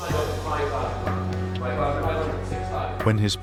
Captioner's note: voice muffled